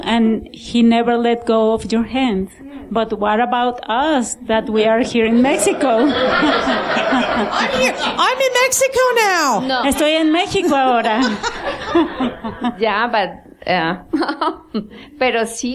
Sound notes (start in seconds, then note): 7.3 laughter